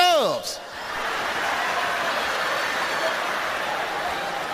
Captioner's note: audience laughs